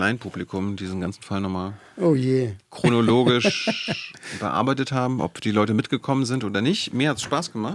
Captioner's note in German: gelächter